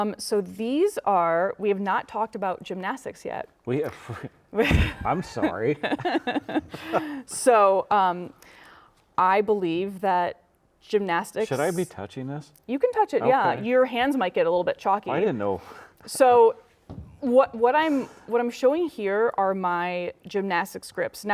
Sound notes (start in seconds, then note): 4.6 laughing; 4.7 laughs